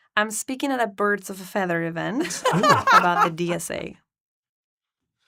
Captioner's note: both laugh